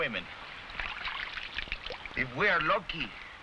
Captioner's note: water splashing